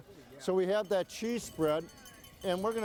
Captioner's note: bell jangling